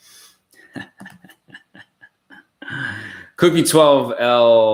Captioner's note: laughs